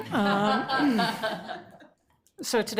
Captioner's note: everyone laughs